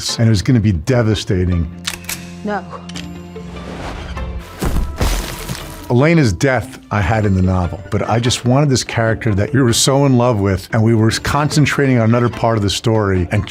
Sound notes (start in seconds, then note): 1.8 gun clicks; 4.4 body thuds